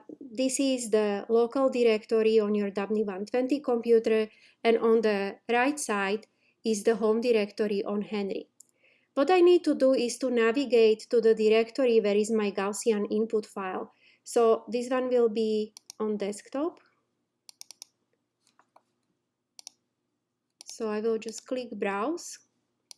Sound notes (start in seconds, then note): 17.4 mouse clicking